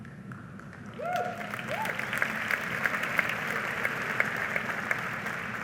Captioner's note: audience applauding